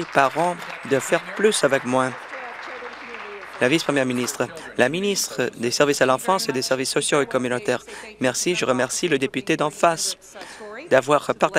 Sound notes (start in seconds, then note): 2.5 applause